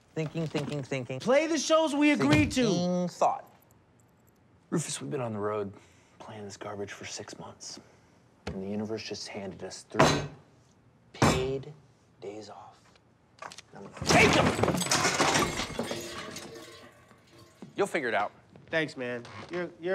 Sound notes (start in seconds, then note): 15.4 items clattering